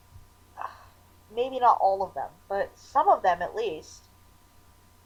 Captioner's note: sigh